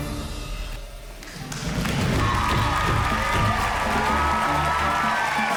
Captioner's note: applause